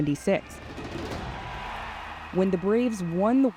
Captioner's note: crowd cheering